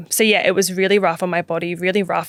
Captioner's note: none